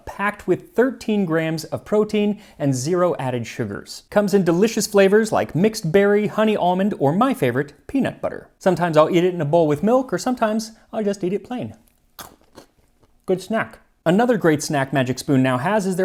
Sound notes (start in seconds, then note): 11.8 crunch